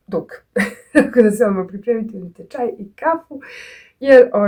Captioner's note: laughter